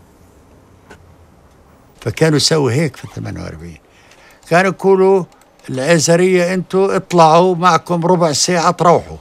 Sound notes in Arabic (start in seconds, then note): 2.1 يتحدث لغة أجنبية